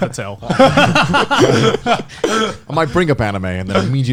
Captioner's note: hosts laughing